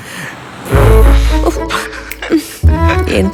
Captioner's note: blowing loudly; laughing